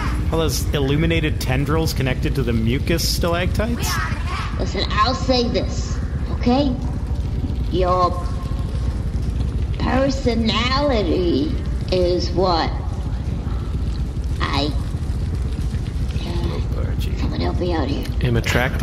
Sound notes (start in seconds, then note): 7.1 hesitant; 11.7 whispering